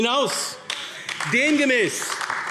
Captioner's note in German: Beifall AfD